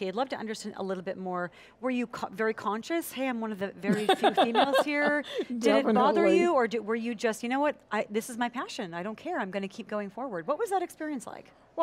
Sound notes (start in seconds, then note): 3.8 laughs